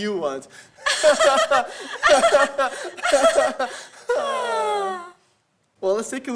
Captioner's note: nervous synchronized laughter